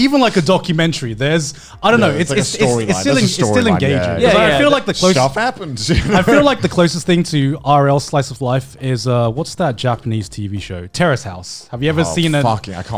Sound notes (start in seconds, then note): 2.0 laughs